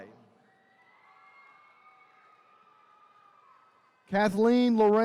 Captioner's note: attendees cheering